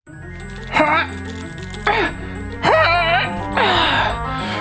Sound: sparkling music; grunting

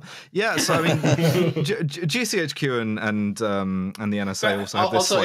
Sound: laughter

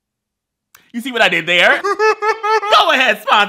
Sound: laughs

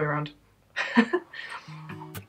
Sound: laugh

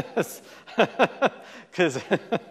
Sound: laughs

